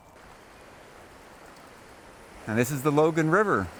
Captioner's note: water babbling